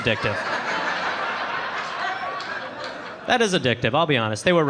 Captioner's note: audience laughing